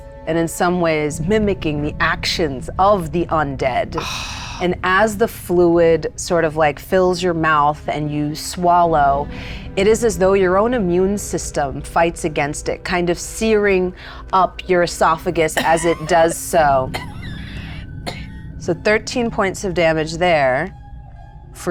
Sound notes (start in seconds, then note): 15.5 coughing